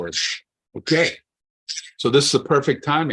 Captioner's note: timer beeps